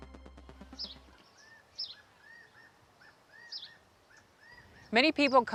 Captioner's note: bird calls